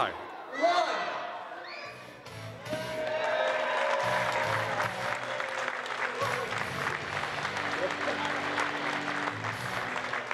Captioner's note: applause